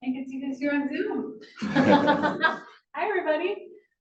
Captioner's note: laughs